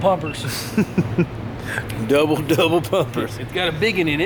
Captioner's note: laughing